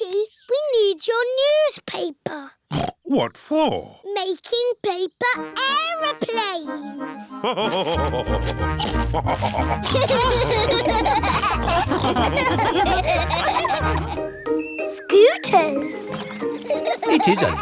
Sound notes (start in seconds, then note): 2.9 snorts; 7.4 laugh and snorts; 9.9 all laughing